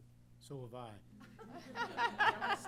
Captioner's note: laughter